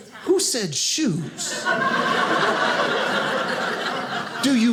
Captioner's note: audience laughing